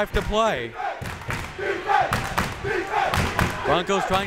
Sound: crowd members chanting

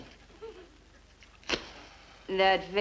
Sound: matchstick strikes

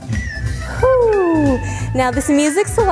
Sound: exhales

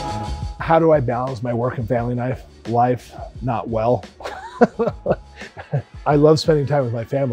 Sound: laughter

